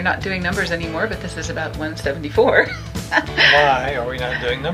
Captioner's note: laughs